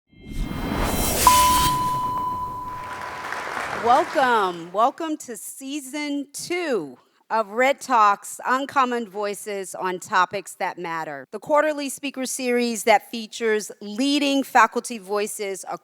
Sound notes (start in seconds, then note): 0.5 cryptic music; 2.5 audience claps